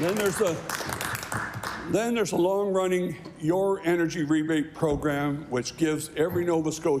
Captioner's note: applause